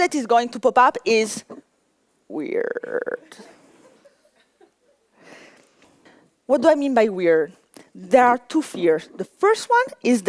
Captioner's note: laughter